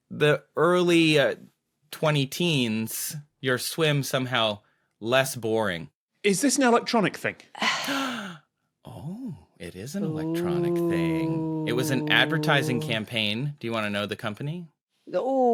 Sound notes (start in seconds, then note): 10.0 gasps